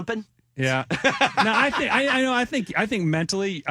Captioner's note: laughing